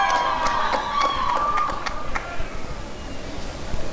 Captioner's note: applause and cheering